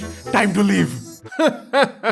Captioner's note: laughter